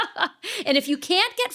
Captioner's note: laughing